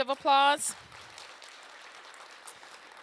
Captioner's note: applause